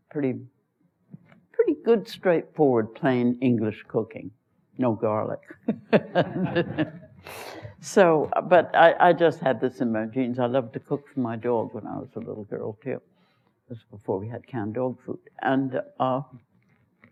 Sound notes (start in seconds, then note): 5.6 laughs; 7.0 laughter